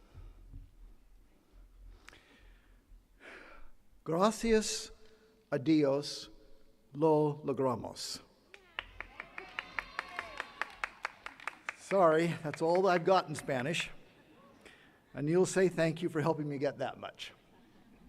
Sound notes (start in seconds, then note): 4.0 speaking in Spanish; 8.5 attendees cheering and clapping